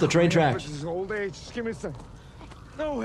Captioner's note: footsteps tapping